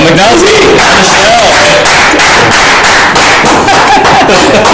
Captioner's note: panel clapping